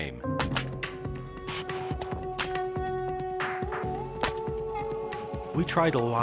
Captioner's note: soft mysterious music; hoppers snapping